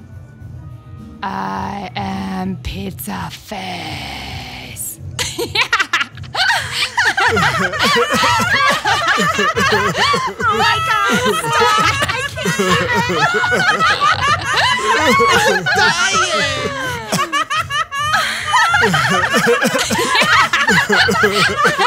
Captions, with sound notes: (in a monster voice) I am pizza face! (hysterical, screaming laughter) - Oh my god, stop! I can't even! (hysterical, screaming laughter) - I'm dying! (hysterical, screaming laughter)